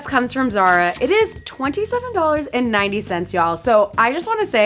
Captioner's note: cash register dinging